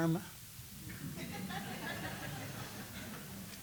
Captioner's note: laughter